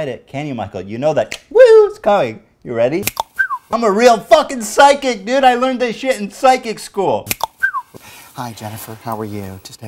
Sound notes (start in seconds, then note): 3.0 cluck-snap!; 3.1 cluck-snap-whistle!; 7.4 cluck-snap-whistle!